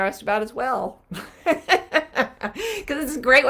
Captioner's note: laughing